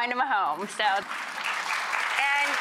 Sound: audience applauds

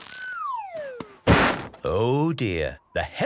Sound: bangs

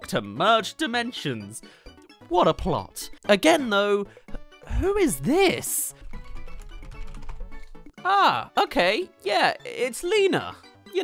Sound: typing

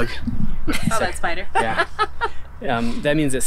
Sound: laughs

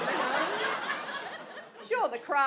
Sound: audience laughs

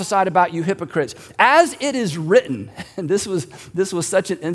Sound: giggling

